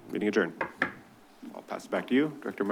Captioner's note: bangs